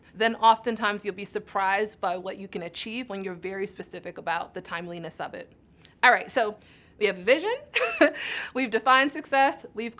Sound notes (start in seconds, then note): 7.8 chuckles